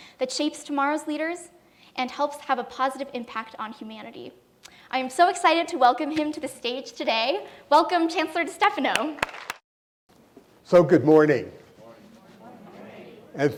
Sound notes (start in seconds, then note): 8.9 applause